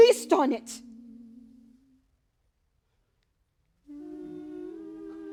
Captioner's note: chanting